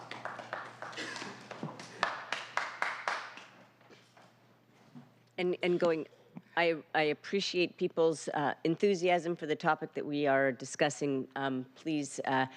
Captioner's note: applause